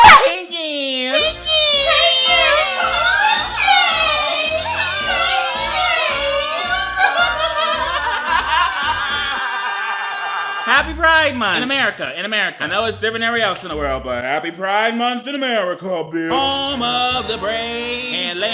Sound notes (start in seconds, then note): 6.7 laughs